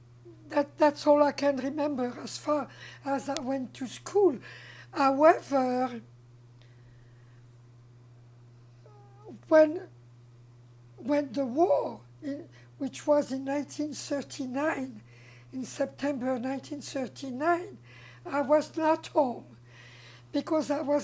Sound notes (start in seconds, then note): 6.3 pauses 6 seconds